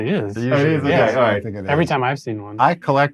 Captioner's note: group chatters